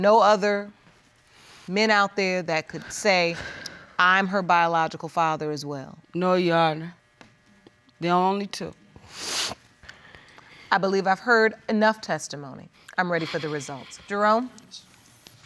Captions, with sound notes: There are no other men out there that could say, "I'm her biological father" as well? No, Your Honor. There are only two. (SNIFFLES) I believe I've heard enough testimony. I'm ready for the results. Jerome?